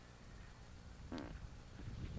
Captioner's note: parp